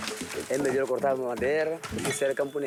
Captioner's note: Portuguese spoken audio